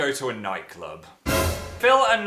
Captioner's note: sound effect